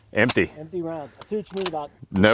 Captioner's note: voice drowned out by gun clicking